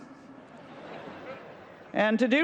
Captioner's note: laughter